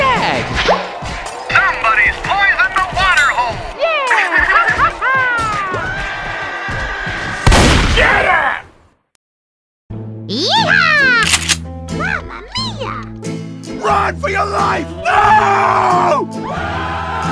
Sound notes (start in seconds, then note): 5.3 laughs; 7.4 shotgun Fire